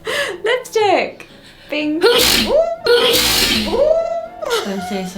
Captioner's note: sneezes